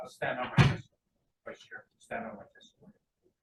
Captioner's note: door thuds